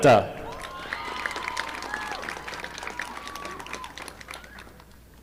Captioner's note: audience applauding